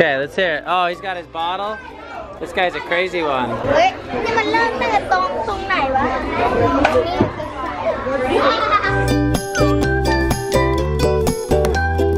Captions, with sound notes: Kay, let's hear it, oh he's got his bottle. This guy's a crazy one. (speaks in foreign language) (cheerful music)